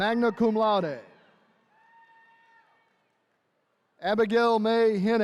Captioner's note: attendees cheering